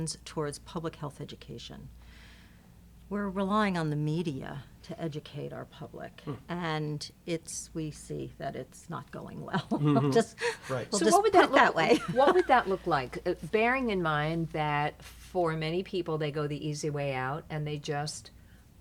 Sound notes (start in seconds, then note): 9.6 laughing